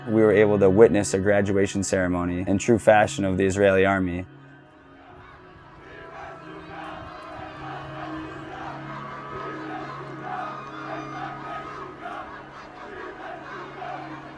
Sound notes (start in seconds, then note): 6.2 distant military-style chanting